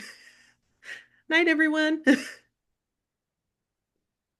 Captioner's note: giggling